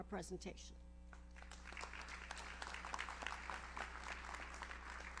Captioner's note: audience applauds